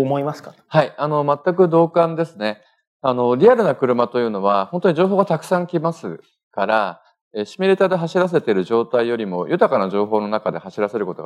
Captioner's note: speaking japanese